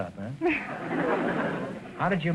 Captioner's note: laughing; audience laughter